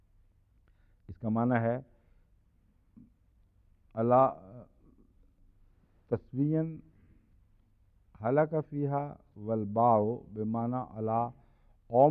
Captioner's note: Arabic